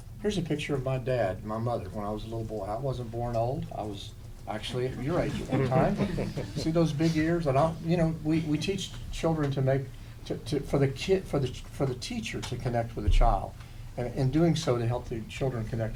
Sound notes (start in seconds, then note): 5.0 laughter